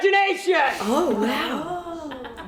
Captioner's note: scattered gasps and exclamations amongst the audience